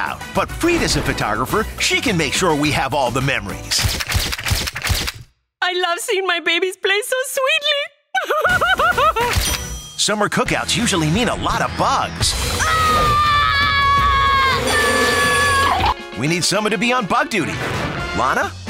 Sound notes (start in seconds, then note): 8.1 crying; 12.5 screaming